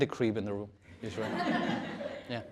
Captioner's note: laugher